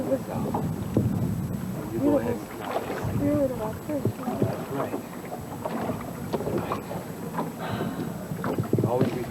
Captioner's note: water sounds